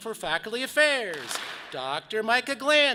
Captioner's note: audience claps